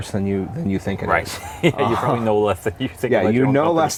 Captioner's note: laughs